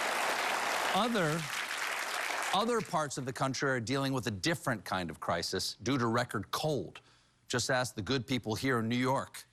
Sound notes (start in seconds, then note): 3.1 applause